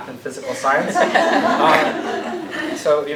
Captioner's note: laughter